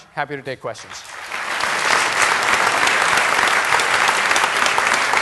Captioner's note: applause